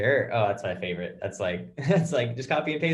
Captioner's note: chuckles